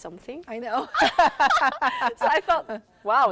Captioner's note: laughter